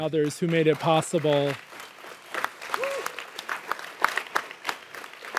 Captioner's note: audience applauds